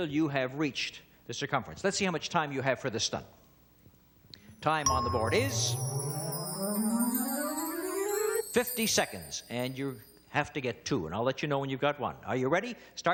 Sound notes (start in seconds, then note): 6.7 ringing